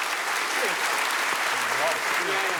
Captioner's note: low chatter